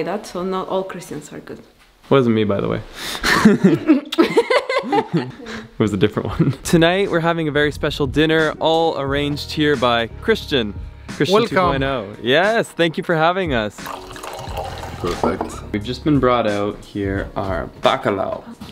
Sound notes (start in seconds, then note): 3.2 laughing; 3.9 kisses; 13.7 wine pouring